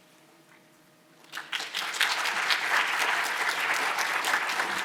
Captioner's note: audience applauding